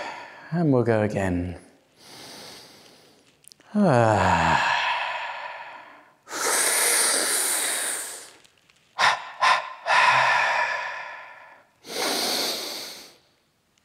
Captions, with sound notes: and we'll go again [Inhales] [Sighing exhale] [Sucking inhale] [Short sharp exhales] Ha ha haaaaa [Big inhale]